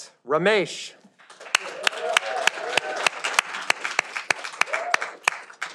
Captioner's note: audience applauding